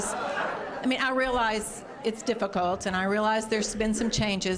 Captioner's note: cheering